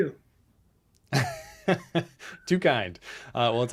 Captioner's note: laughs